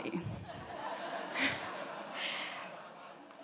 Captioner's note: audience laughing